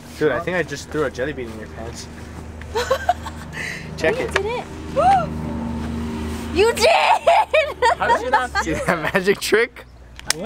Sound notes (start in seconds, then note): 2.6 laughing; 4.2 gasps; 6.6 laughing